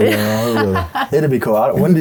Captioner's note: laughing